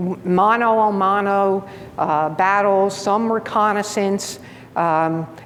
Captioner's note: speaking in foreign language